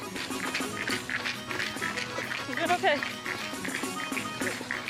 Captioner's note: feet pounding on trail